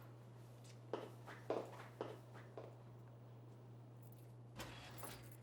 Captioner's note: pregnancy test clatters; footsteps departing; oven door clatters open